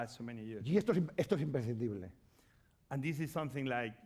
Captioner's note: speaking spanish